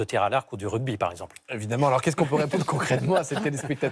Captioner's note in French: rires